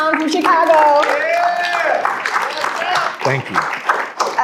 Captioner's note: applause